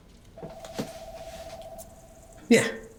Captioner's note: phone ringing